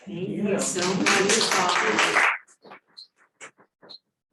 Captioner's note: audience applauds